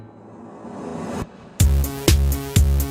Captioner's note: air whooshes; upbeat synth music